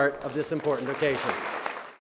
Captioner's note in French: Applaudissements